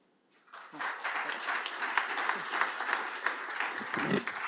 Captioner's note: applause